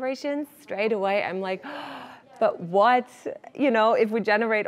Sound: gasps

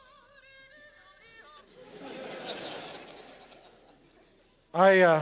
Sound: laughter

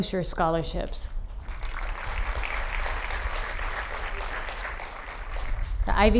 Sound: applause

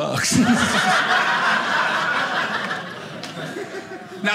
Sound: audience laughing

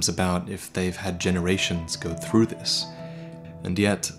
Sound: breathe

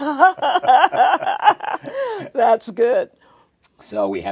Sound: laughs

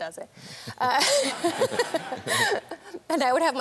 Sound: all laughing

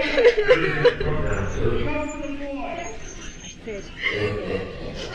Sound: Marla sobbing

